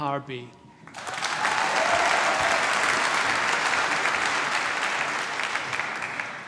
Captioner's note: applause